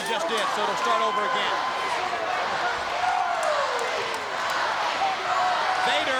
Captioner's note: crowd cheering